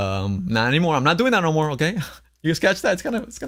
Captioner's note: laughs